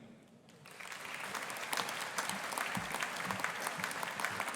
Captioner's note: audience applauding